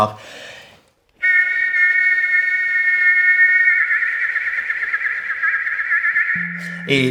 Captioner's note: Riz'shar whistles a major chord